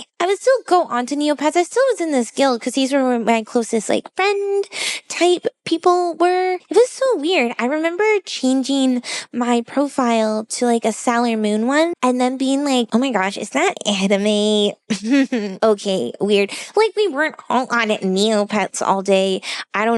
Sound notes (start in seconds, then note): 14.9 condescending chuckle